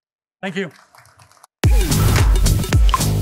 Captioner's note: applause